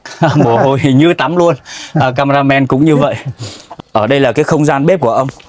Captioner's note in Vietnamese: khịt mũi